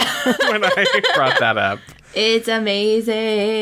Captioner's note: laughs